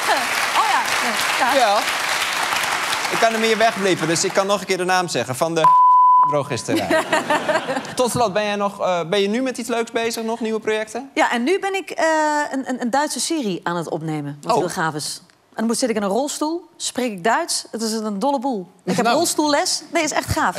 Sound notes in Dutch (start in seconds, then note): 0.0 applaus; 5.6 piep